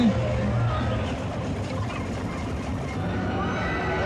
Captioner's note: video fast forwarding